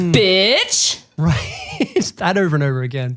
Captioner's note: laughs